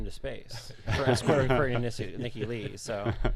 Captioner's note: laughing